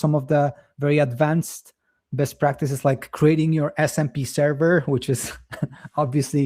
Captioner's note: chuckles